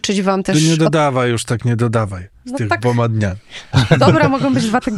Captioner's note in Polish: śmiech